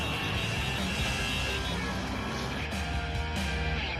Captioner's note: car horn honks